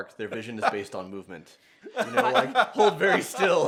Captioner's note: laughs; laughter